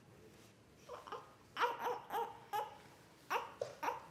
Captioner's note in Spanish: bebé da quejidos cortos